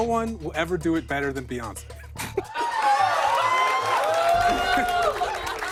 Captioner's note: cheers and laughter